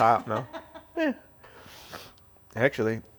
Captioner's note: laughs